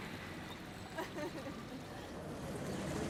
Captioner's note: laughs